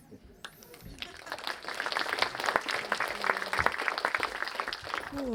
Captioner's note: applause